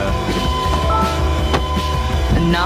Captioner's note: door opens